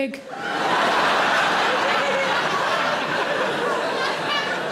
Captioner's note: audience laughs